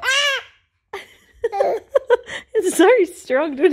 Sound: laughs; giggles

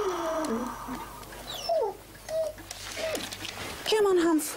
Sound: dog whimpering

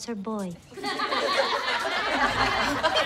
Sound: laughter

